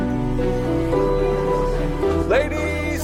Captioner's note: people chattering